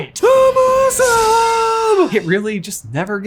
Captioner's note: exclaims